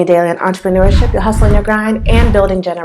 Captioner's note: swipe sound